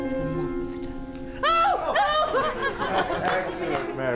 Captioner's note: woman yelps in fear; whole room laughs in response; man claps